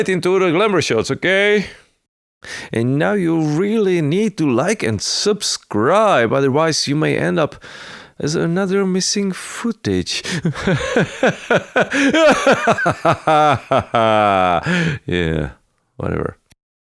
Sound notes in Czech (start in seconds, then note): 10.3 Hrůzný smích!